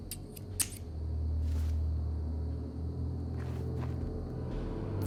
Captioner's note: scissors snipping